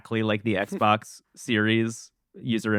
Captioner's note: laughs